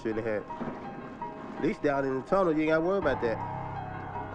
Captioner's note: siren Wailing In Distance